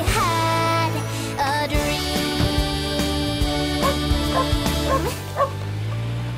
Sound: barking

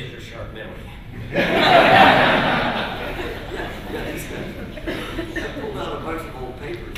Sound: laughter

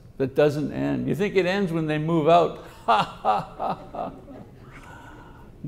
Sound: laughs

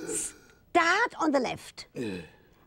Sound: breathes out

